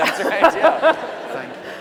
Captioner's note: laugher